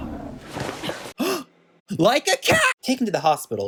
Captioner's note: gasp